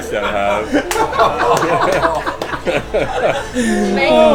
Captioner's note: laughter